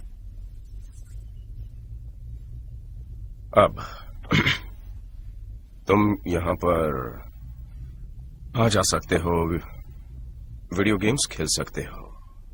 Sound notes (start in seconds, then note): 4.2 clears throat